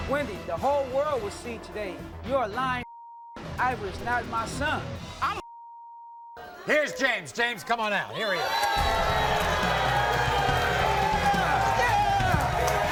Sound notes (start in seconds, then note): 2.8 beep; 5.3 beep; 8.4 applause